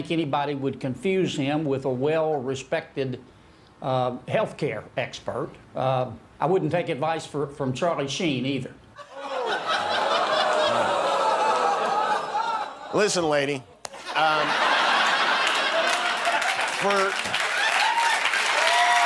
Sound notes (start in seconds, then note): 10.5 laughter